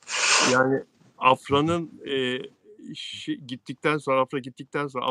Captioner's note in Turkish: homurdanır